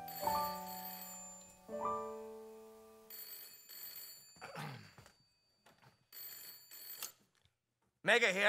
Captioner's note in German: Handy klingelt